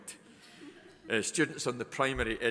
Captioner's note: students chuckling